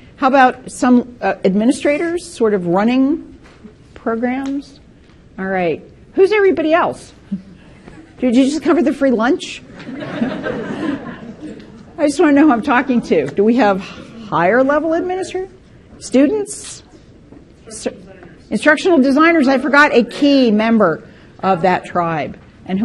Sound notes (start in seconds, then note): 9.6 participants laughing; 17.3 speaking faintly